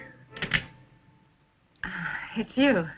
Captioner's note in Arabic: صرير الارض